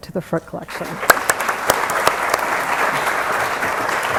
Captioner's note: applause